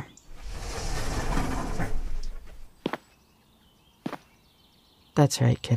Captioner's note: A sliding door opens